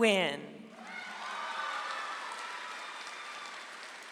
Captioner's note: audience applauds